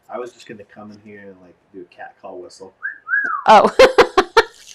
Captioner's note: whistles; laughs